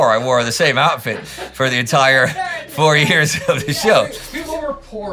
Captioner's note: laugh in the back